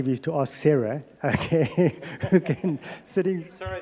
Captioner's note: laughter